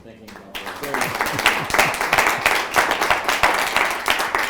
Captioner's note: applause